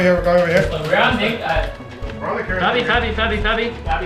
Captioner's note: keyboard ticking